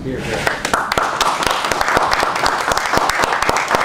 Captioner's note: applause